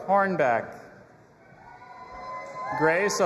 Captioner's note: audience applauding and cheering